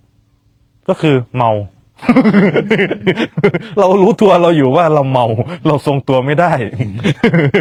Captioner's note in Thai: เสียงหัวเราะ; เสียงหัวเราะ